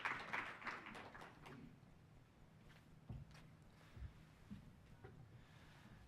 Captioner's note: applause